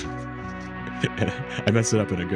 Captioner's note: laughs